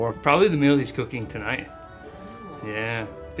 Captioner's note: none